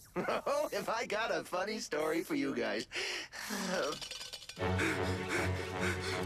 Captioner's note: exhales; panting